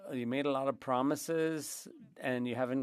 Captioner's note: speaking French